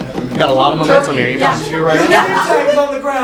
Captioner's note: green laughs